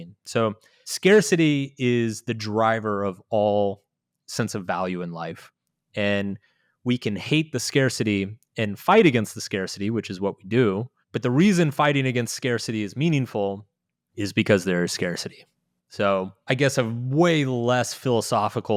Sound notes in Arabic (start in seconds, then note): none